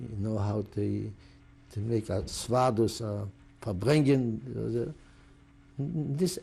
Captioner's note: non-english